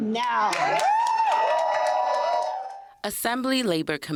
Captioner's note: cheers and applause